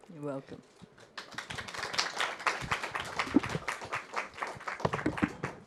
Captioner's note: audience applause